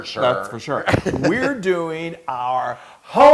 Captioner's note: laugh